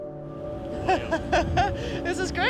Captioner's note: woman laughs